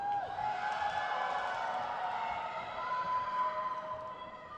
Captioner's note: crowd cheers